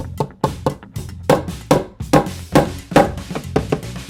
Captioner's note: hammer bangs